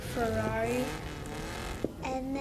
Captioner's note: car revving engine